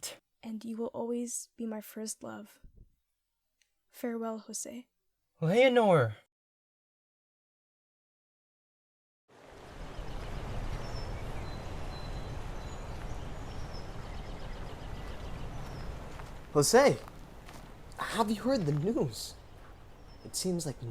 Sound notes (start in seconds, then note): 9.8 park noises and birds chirping; 14.3 footsteps approaching